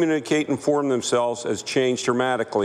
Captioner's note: speaking French